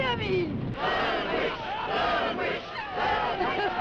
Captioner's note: crowd; Elizabeth laughing